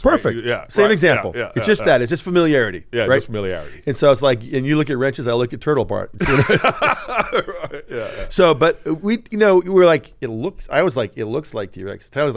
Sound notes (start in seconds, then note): 6.2 laughs